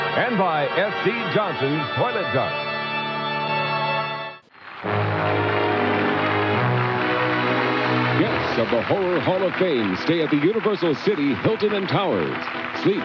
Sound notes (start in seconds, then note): 4.3 audience clapping; 4.8 dramatic music